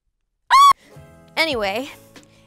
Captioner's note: screaming